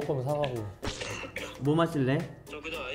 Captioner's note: coughing